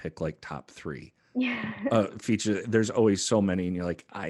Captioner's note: laugh